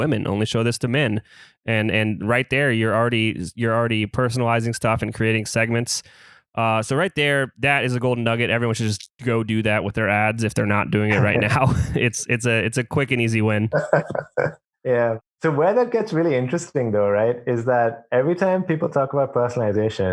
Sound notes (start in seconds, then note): 11.0 laughs; 13.7 laughs